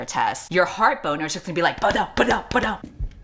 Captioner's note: thumps